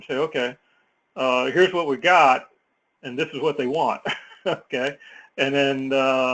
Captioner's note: laugh